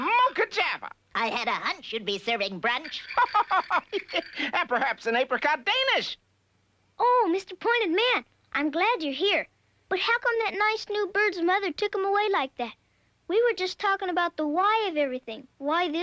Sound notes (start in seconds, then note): 2.9 chuckling